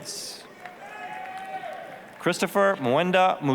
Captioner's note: applause, cheering